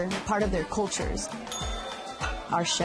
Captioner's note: bell dings